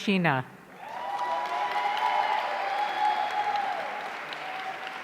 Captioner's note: audience cheering